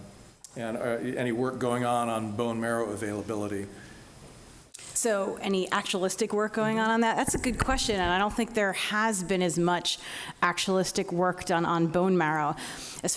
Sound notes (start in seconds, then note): none